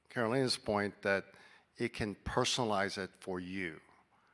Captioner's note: none